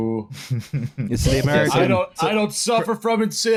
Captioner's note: chuckles